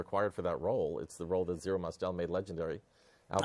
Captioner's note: laughing